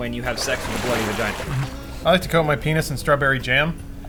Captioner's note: blood splashing